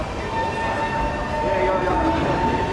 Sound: train starts rolling; rail sparks

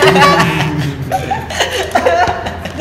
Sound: laughs

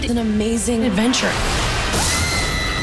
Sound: glass breaking; bang

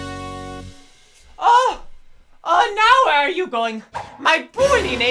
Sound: doof

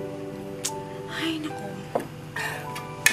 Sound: clicks tongue

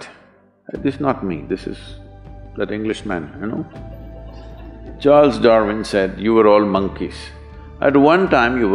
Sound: few laugh

